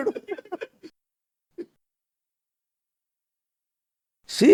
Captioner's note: laughs